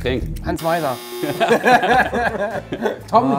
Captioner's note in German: Lachen